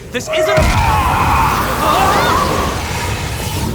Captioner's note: growls